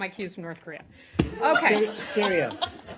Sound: laughter

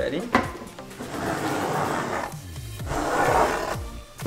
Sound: scraping

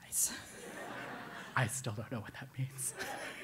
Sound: laugh

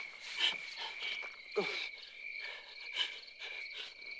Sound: Skeeter gasping

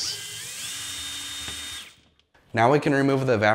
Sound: drilling

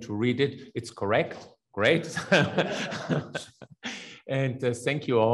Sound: laughs; attendees laugh

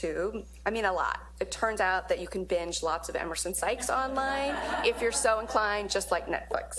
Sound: laugh

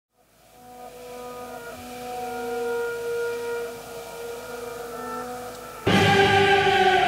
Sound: spooky sounds of unease

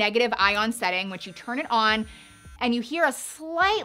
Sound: brush buzzing

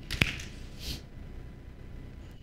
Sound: claps

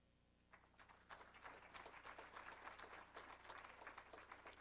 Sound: crowd applauding

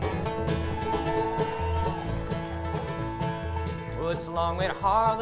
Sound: audience cheering

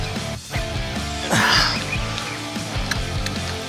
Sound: grunting

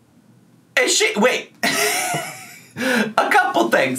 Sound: laughs

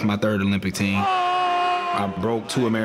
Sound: men cheering

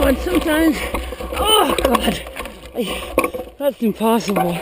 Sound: groans

